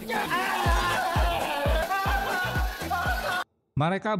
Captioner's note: applause